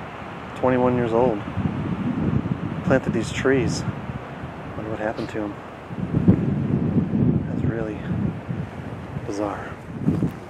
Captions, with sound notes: 21 years old. Planted these trees. Wonder what happened to him. (wind whooshing) It's him who planted these.